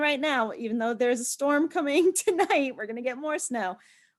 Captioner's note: laughs